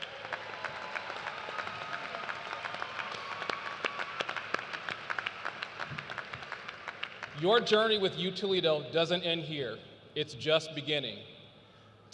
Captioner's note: cheers and applause